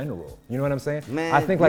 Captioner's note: stammers